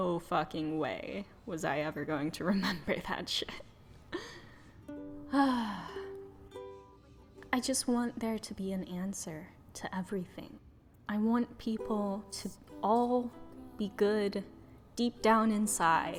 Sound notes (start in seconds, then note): 5.3 sigh